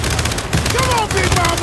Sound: gunshots

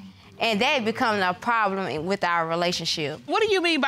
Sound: none

